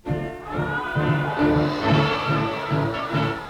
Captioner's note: suspenseful music; chanting